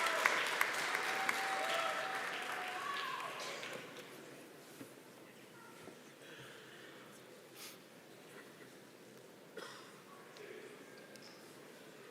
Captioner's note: applause